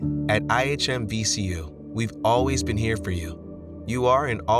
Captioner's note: voiceover